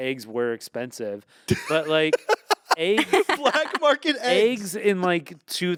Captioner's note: laughs